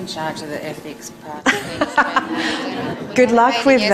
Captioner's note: laughter